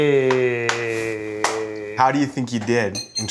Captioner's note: high-five clap